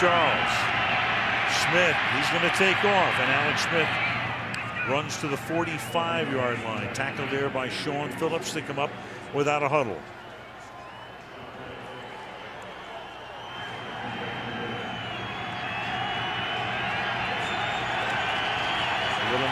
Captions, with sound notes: Fake to Charles. Smith, he's going to take off. And Alex Smith runs to the 45-yard line. Tackled there by Shaun Phillips. They come up without a huddle. [pa announcement]